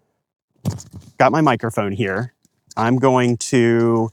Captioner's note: mic ruffles